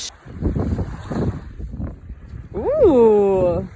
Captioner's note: water babbles